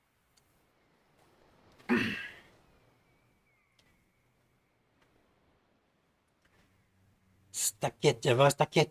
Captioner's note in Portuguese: limpando a garganta